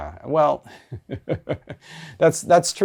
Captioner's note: chuckles